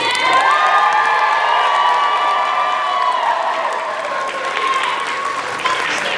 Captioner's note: cheering